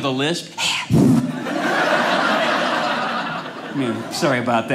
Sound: audience laughing

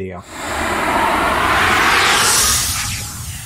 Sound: air whooshing

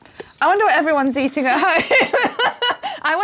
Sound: laughs

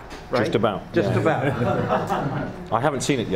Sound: laughing

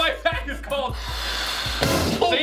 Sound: air blowing

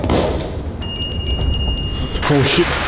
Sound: bell Rings

